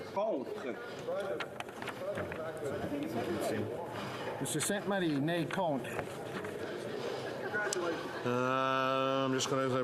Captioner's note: speaking French